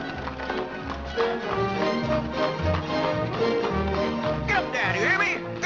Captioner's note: hooves trotting